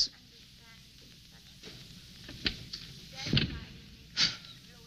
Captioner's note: door closing